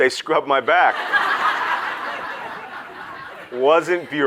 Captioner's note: audience laughs